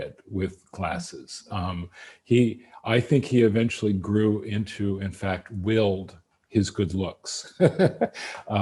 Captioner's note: laughs